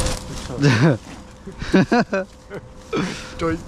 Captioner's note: laugh